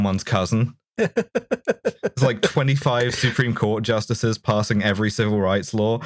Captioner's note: laughter